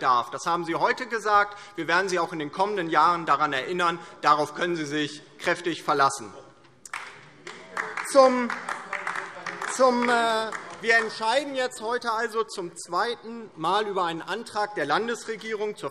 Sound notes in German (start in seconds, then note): 6.8 Beifall DIE LINKE